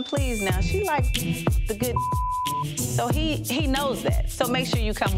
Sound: beep

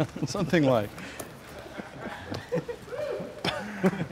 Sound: laughter

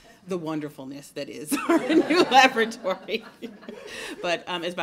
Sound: laughter

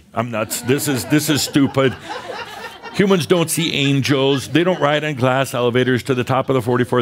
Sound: laughter

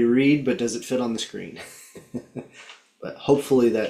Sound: laughing

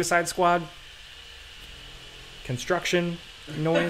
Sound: construction tools whirring

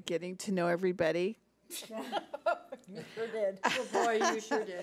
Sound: laughs

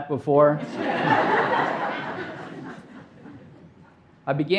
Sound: audience laughing

